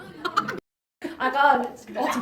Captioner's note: laughs